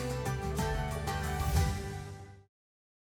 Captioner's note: whoosh